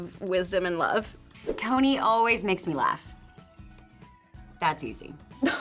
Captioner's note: graphics swoosh